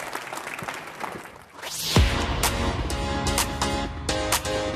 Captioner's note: applause